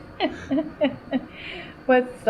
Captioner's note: laughs